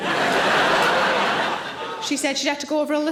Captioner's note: audience laughing